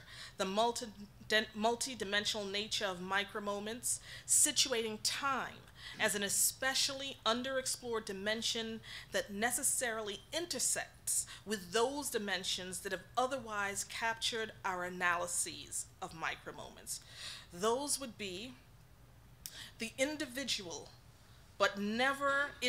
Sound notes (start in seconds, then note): none